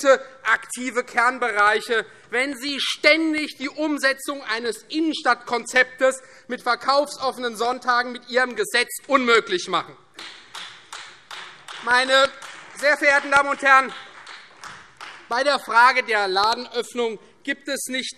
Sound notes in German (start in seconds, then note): 10.1 Beifall Freie Demokraten